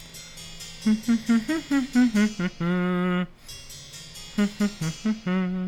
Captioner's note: hums